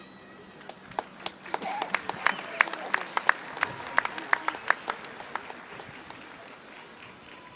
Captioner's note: applause